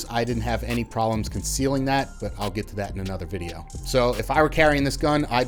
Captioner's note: none